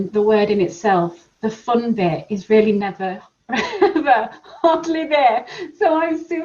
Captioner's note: laughs